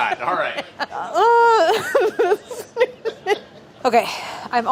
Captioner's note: laughs